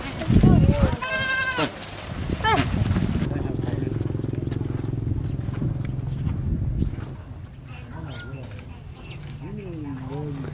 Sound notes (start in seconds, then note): 0.9 animal bleats